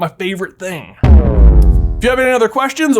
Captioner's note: epic crashing